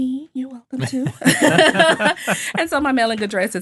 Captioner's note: all laughing